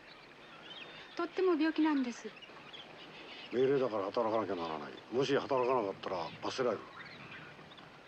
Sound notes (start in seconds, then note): 0.9 speaking japanese